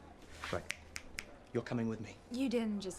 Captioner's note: finger snapping